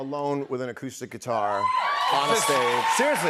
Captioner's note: cheers and applause